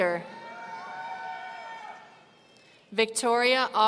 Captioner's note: audience cheering